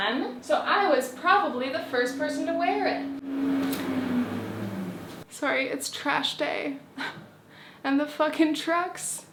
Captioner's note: truck noises